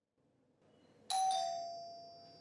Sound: doorbell rings

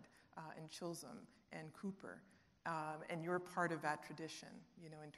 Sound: none

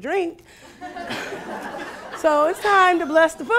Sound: laughing

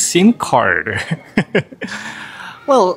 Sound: chuckles

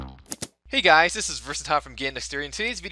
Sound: voiceover

